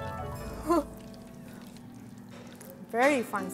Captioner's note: crunch; sound of surprise